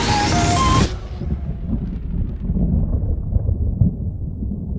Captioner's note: thunder rumbles